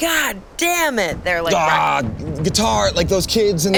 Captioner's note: grunts